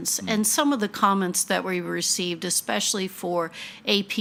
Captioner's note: none